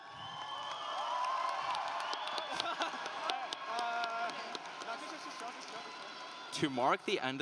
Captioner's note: applause